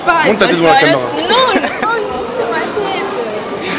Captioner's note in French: rigole